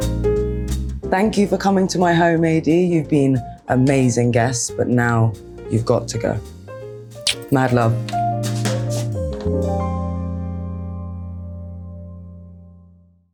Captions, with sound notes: Thank you for coming to my home, "AD," you've been amazing guests, but now, you've got to go. [lips smacking] Mad love. [upbeat jazz music]